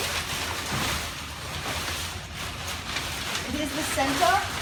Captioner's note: fly sheet rustles